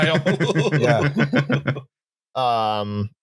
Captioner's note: laughing; laughter